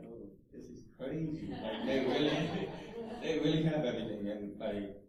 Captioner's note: laughter